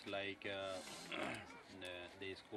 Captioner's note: sniffles